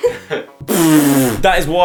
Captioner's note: laugh; blows raspberry